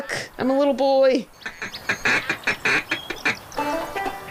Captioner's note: blowing call